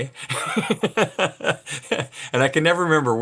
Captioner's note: laughs